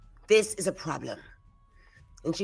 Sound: none

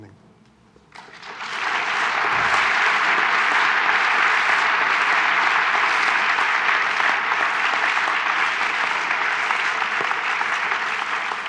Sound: applause

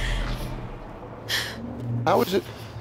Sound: tense music; exhales

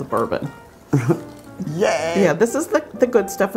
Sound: laughs

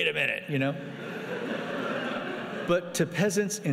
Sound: laughing

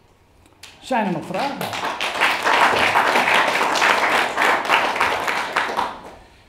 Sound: applause

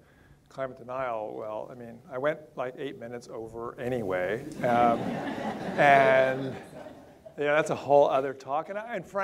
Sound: audience laughter

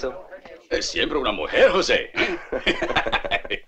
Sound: talking Spanish

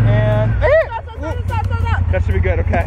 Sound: yelps

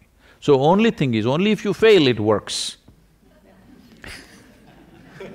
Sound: few laugh

